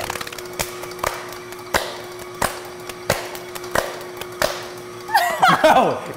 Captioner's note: fast paced hands slapping; hands slapping rhythmically; both laughing